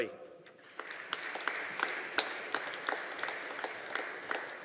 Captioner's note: audience applauding